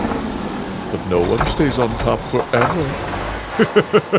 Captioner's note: dashboard beeping; chuckle